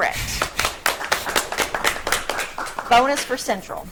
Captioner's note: audience clapping